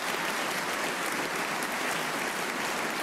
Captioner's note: applause